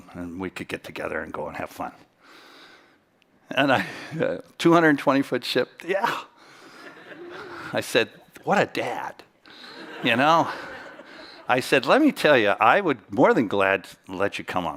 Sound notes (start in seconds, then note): 9.6 chuckles